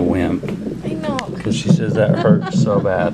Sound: laughs

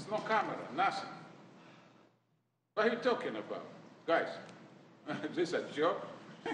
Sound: laughter

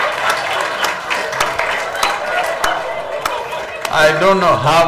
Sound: laughter/Applause

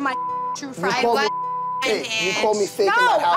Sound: beep

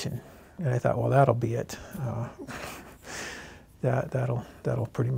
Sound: laughs

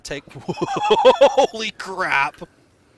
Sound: laughter

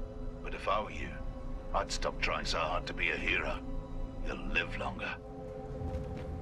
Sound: radio

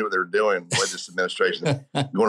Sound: interviewer laughs

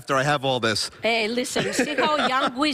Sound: laughter

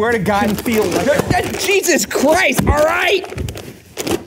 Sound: bucket booms

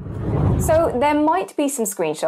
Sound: wind blows

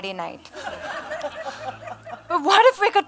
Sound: audience laughs

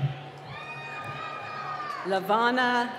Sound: cheering

